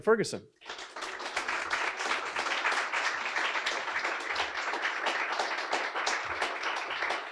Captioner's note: applause